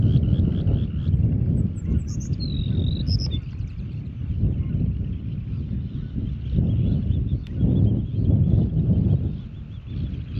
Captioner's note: wind blowing and birds chirping